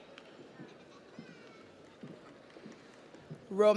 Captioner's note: audience applauds